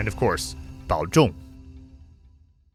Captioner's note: speaks Mandarin